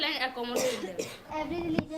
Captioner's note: coughing